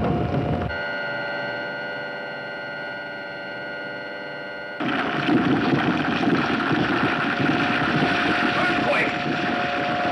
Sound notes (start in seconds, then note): 1.0 buzzing; 4.8 rocks crashing; 5.3 humming